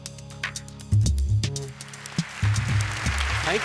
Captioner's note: applause